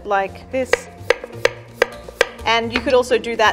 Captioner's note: knife tapping against wooden board